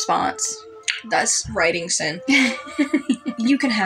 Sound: laugh

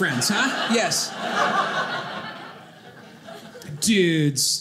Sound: audience laughing

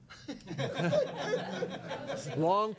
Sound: laughing

